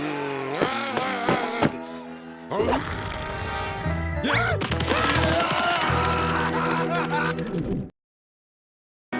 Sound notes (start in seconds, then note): 2.5 rabbits growling; 6.4 screaming